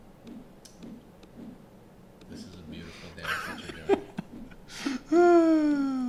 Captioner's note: giggling